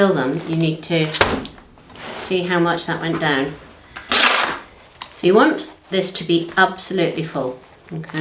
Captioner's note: thump